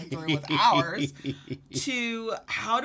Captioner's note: laughs